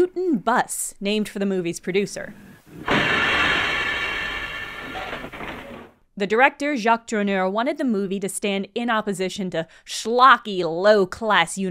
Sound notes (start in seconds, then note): 2.8 a needlessly loud bus rolls up